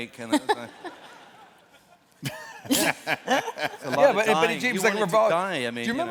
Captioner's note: laughter